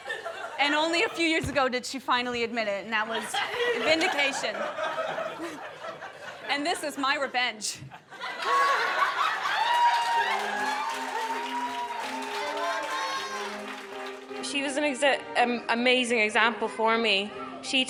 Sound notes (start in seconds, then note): 4.8 guests laughing; 8.0 guests laughing and cheering; 11.9 uplifting music